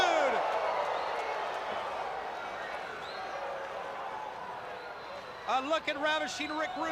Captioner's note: crowd chatter